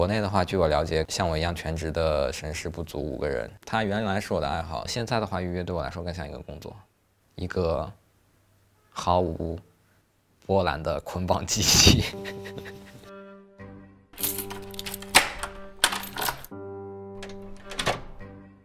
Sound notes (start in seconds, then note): 11.8 chuckling